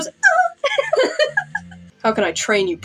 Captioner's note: both Laugh